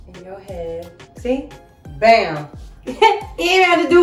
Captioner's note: laughs